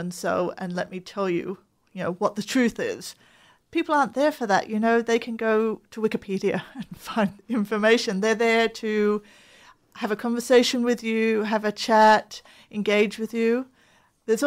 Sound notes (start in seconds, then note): 6.3 chuckles